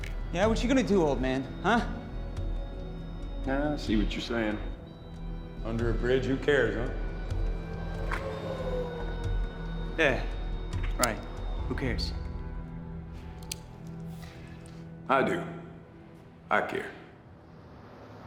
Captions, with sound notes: YEAH? WHAT YOU GONNA DO OLD MAN, HUH? I SEE WHAT YOU'RE SAYIN'. UNDER A BRIDGE, WHO CARES, HUH? YEAH, RIGHT. WHO CARES? [CLICKS, CLOSES SWITCHBLADE] I DO, I CARE.